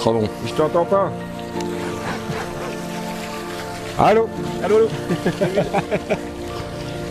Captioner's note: laughs